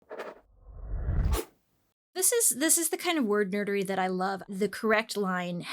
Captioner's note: scratching sound